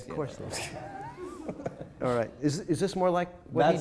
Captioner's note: laughing